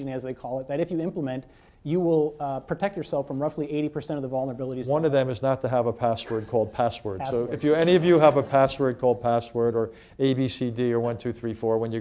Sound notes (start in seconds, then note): 7.8 laughter